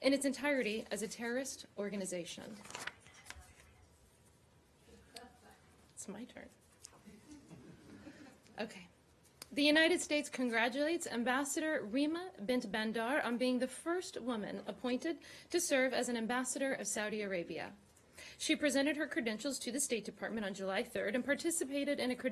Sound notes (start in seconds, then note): 7.1 laughter